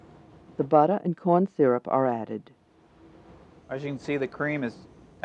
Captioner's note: voiceover